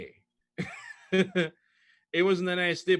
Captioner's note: laughs